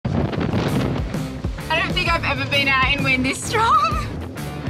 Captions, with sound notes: (wind roaring) (rock music) - I don't think I've ever been out in wind this strong!